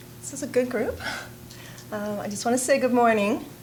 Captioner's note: chuckling